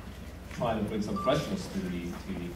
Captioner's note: none